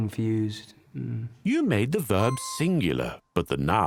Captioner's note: voiceover